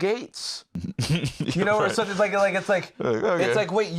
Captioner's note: laughs